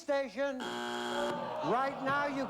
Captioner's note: buzzer